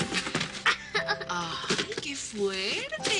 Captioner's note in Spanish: Risas